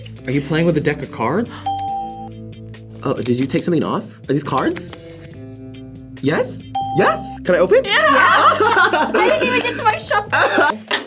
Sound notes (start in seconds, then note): 1.6 bell rings; 7.2 bell rings; 8.0 laughs